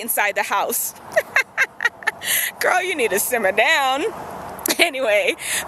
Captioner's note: laughs